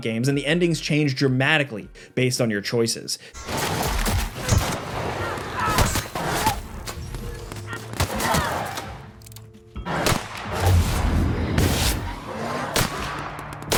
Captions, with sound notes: and the endings change dramatically based on your choices. (weapons clanking) (gun firing)